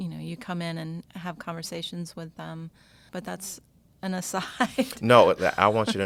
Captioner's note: laughs